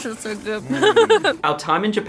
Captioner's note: laughing